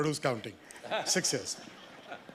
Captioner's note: panelists laugh